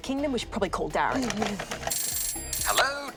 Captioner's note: phone rings